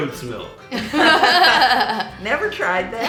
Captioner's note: laughing